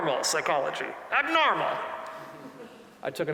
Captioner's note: audience chuckling